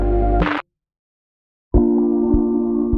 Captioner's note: tranquil music; static scratches; tranquil music